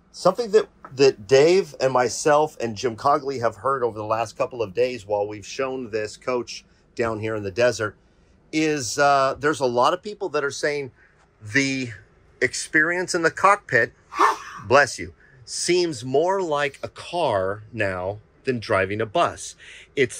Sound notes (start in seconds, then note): 14.1 sneezes